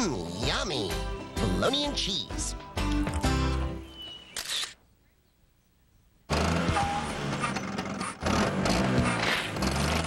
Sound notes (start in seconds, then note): 4.3 camera Shutter Clicks; 6.3 engine Revving